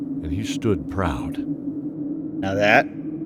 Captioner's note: proudly hushed